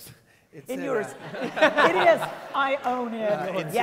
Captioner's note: laughs; laughter